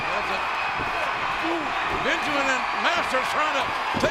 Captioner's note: audience cheering